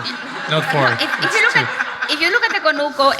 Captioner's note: audience laughs